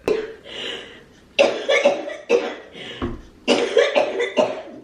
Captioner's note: coughing